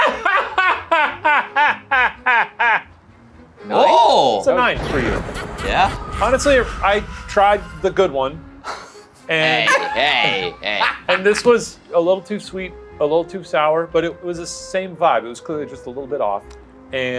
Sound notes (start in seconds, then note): 0.0 laughs; 4.8 Joker laughs; 8.6 laughs